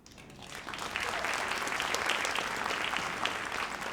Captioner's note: audience applauds